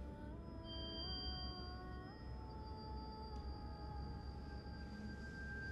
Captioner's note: eerie music; hitch-pitched ringing